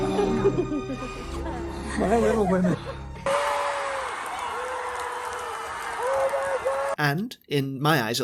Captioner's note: sounds of happy crying & laughing; sounds of crowd cheering